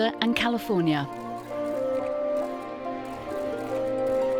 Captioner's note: camera shuttering; gentle music